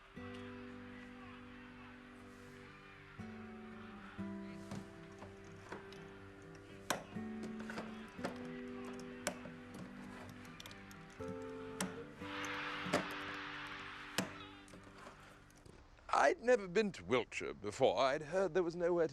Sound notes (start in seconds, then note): 0.1 TV chattering; 0.1 gentle music; 13.0 crowd cheering